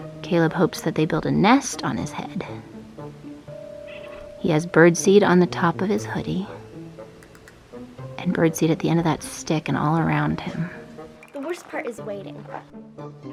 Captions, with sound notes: Caleb hopes that they build a nest on his head. (gentle music) (birds chirping) He has bird seed on the top of his hoodie, and bird sit at the end of that stick and all around him. - The worst part is waiting.